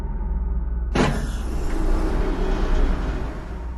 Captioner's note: door closes